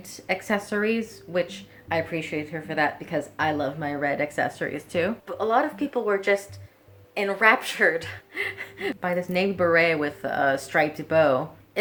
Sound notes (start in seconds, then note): 8.3 chuckles